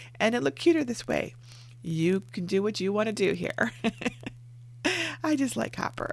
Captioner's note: laughing